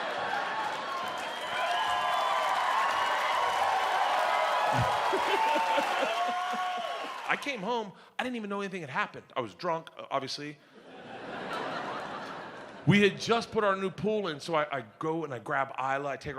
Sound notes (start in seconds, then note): 0.0 audience cheers; 4.7 Bert laughs; 10.8 audience laughs